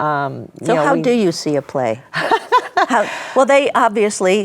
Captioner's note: laughing